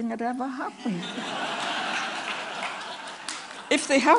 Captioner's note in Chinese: Laughter; 笑聲